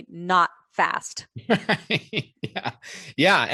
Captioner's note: laughter